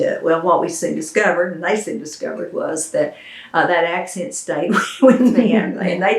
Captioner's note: laughter